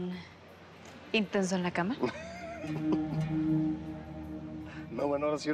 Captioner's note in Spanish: Risas